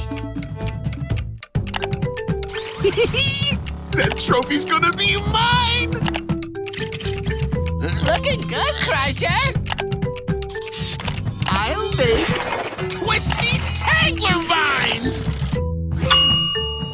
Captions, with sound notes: [giggling] That trophy is gonna be mine! Looking good Crusher! I'll make... twisty tangler vines!